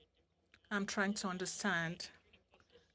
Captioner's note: speaking French